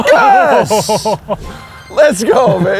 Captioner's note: laughs